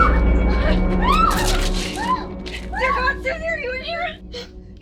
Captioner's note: screaming